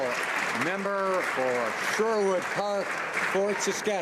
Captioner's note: some Applause